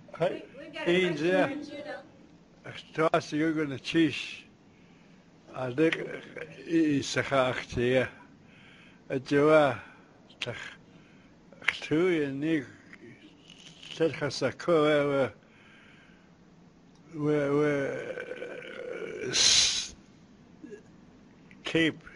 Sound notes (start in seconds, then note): 3.1 non-english speech